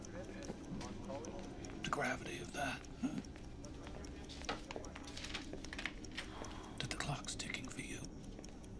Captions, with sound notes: THE GRAVITY OF THAT, HMM? [TICKING] WHEW. THAT THE CLOCK'S TICKING FOR YOU.